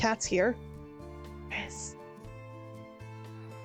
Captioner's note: whisper